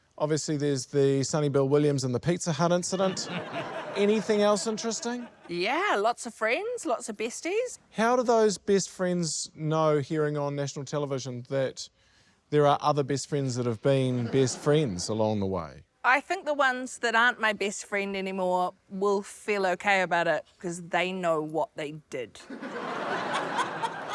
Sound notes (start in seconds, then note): 2.9 laughter; 22.4 laughter